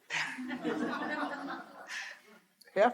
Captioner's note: all laughing